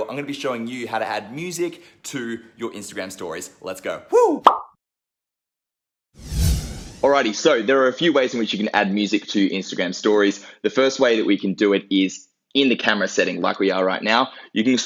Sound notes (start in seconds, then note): 4.4 pop; 6.2 swoosh